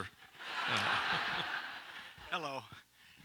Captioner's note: audience laughs